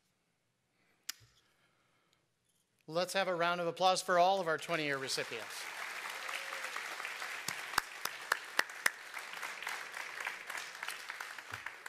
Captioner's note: applause